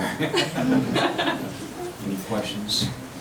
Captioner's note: laughing